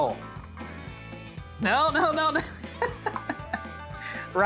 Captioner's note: laughing